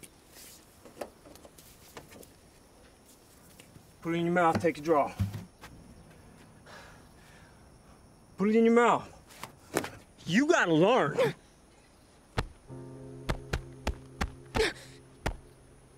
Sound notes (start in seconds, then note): 11.3 grunting